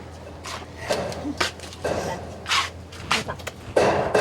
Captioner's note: laughing